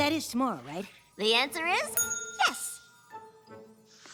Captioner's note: ding